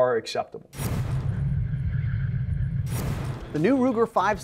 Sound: deep foreboding sound

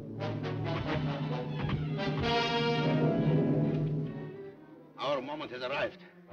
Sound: dramatic music; axes thudding

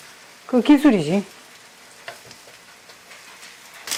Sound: confident

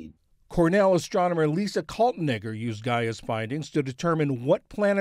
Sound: voice-over

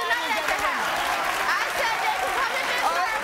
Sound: audience clapping

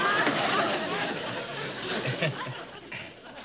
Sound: chuckles

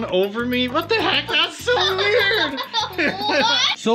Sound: laughter

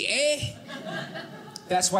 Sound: audience laughing

